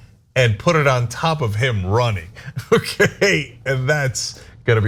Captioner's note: laugh